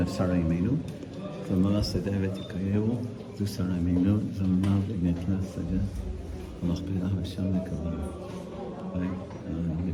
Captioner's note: prayer in Hebrew